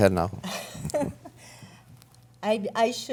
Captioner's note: laughs